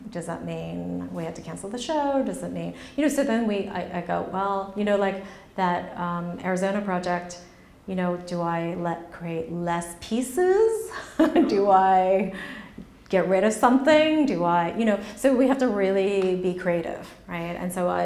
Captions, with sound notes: Does that mean that we have to cancel the show?" You know, so then I go, "Well," you know, like that Arizona project, you know, "Do I create less pieces? (laughs) Do I get rid of something?" You know, so we have to really be creative, right?